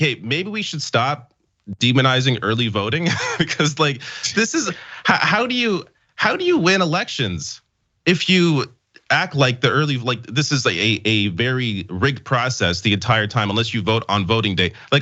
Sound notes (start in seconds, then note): 3.0 laugh